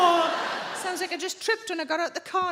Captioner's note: audience laughing